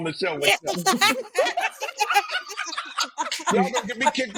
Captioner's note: laughing